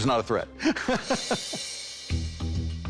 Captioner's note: laughing